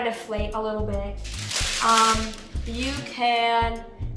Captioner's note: paper rustling